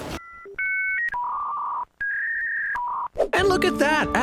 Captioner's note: dial up sound